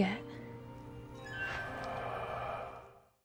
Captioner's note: magic noise